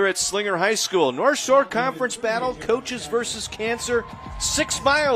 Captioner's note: applause